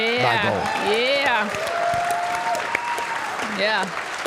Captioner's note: audience cheering; audience applauding